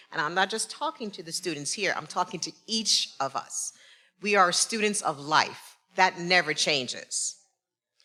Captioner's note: none